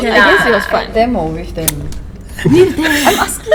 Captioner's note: laugh